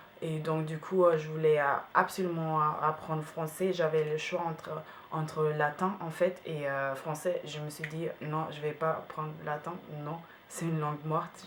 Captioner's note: Latin